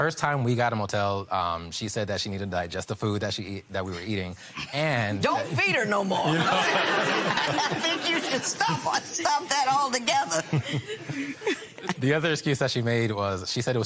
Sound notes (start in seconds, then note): 6.2 laughter